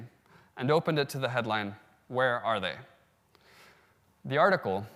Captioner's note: in spanish